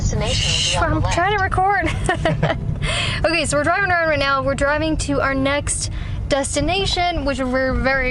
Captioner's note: laughs